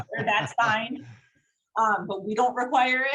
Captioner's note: all laugh